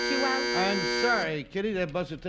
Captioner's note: buzzer sounds